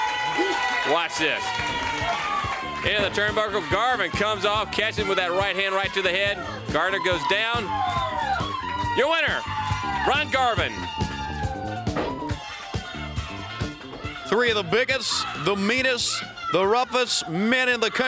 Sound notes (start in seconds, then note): 0.3 crowd cheering; 9.8 crowd cheering